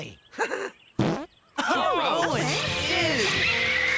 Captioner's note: laughing; Owen Farts; gophers Complaining